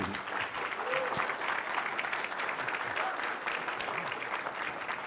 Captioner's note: applause